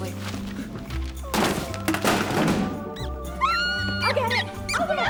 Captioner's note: mouse squeaks